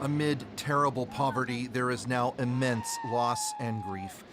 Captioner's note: screaming